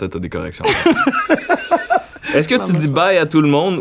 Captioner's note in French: éclat de rire